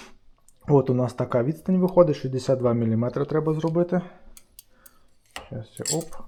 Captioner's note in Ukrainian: сопіння